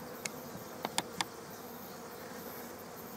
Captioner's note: bees Buzzing